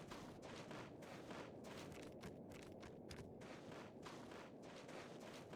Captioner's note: footsteps